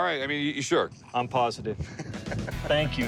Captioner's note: laughs